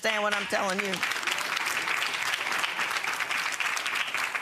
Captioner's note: audience applauding